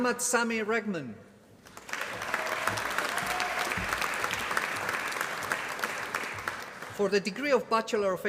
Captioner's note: applause